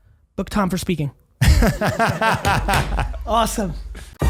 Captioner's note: laughing; upbeat music